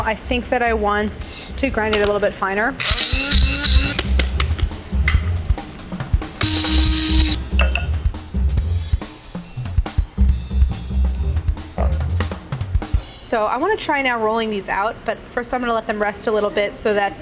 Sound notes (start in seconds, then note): 2.8 food processor whirring; 7.5 uptempo jazz music